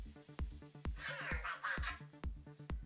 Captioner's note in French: Cozmo parle robot